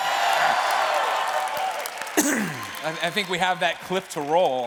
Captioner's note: cheers and applause